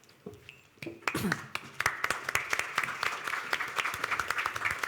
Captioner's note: audience applauding